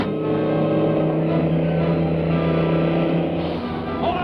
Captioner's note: airplane whirring